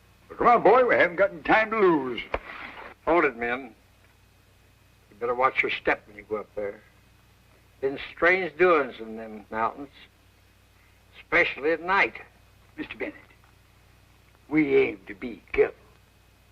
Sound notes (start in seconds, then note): none